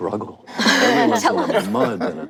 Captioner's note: panel laughs